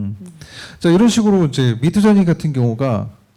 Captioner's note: speaking korean